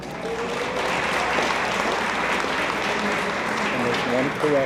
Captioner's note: attendees applaud